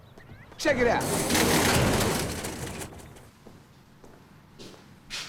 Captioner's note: door rattles